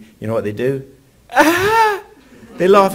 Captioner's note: laughs